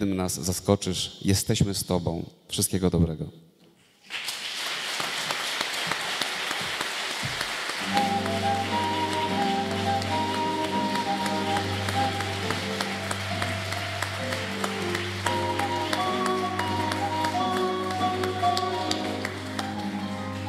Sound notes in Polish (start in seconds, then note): 3.4 oklaski